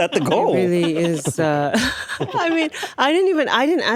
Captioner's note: laughs